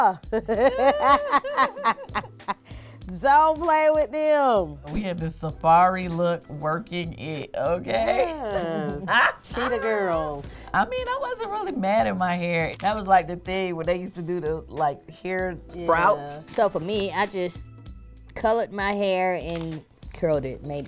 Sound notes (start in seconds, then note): 0.2 laugh; 8.1 laughing